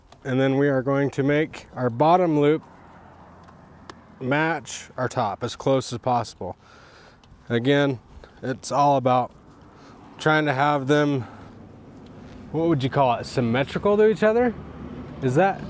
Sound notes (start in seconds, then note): none